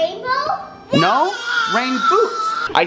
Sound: vocalizing

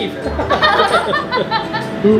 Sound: laughs

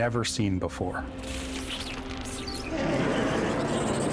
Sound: roaring

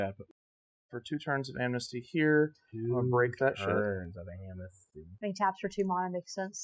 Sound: grumbling player noises

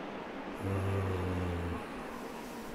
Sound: grunting; wind blowing violently

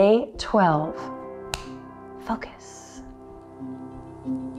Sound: snaps

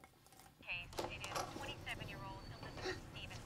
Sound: door clicks

